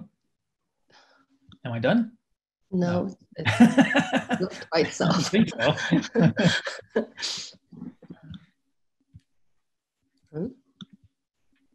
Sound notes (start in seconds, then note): 3.4 laughs